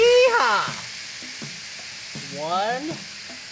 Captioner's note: pan sizzling